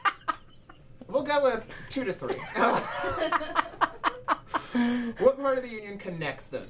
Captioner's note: laughter